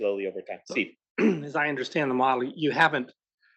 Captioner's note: cough